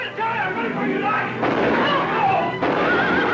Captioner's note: gunshots; screams; horse neighs